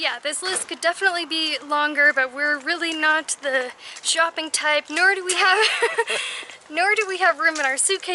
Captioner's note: laughter